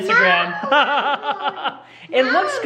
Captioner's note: laughs